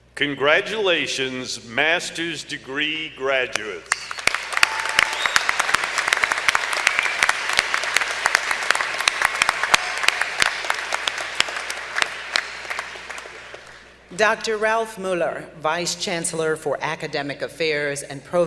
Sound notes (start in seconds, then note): 3.9 applause